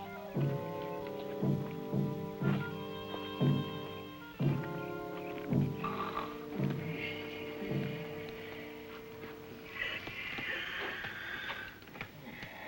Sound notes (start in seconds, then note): 5.9 snoring